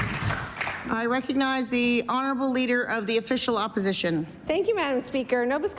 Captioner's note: applause